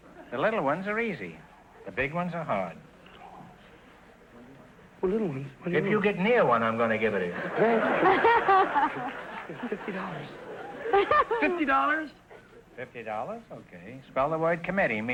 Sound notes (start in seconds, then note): 7.3 laughing; 9.0 whispering; 10.4 laughing